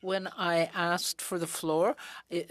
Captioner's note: speaking in french